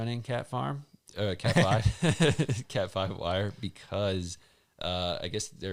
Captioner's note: chuckling